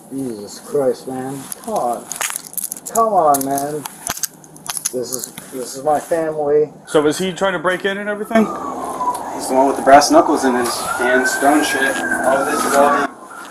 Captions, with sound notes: Jesus Christ, man. Come on. Come on, man. (crunching) This is my family. So is he trying to break in and everything? He's going with the brass knuckles in his hands. Don't shit. All this is all he...